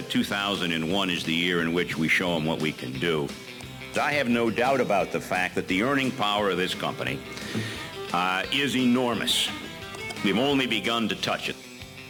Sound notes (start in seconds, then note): 7.2 inhale